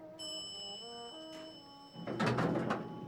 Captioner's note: lift pinging; doors opening